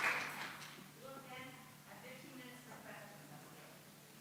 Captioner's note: voice offstage in the distance